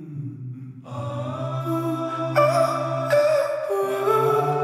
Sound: vocalizing intensifies

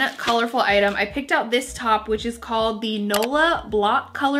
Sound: mouse clicks

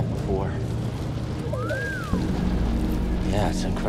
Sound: amazed whistle

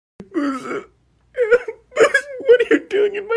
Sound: intense crying

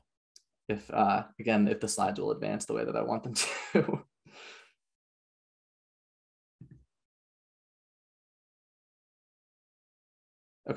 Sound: chuckles; pause

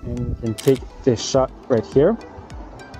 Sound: camera clicking

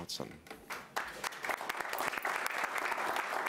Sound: applause

